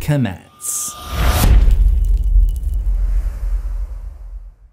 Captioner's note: impact